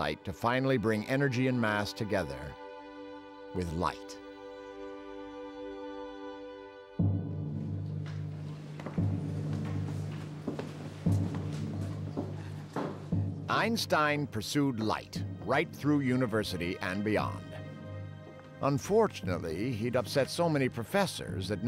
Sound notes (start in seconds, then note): none